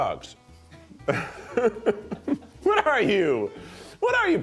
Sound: laughs

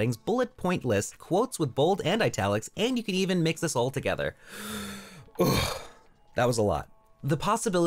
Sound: exhale

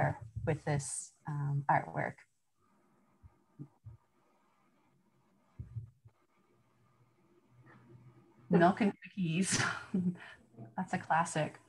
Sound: laughter

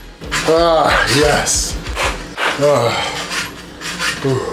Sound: exhales

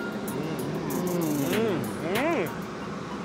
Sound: eating

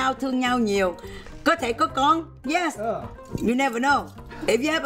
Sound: speaking foreign language

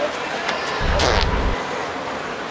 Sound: real fart

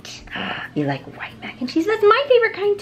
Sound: gasps

